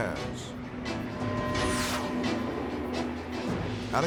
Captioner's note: jet whooshing